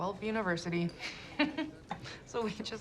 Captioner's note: laughs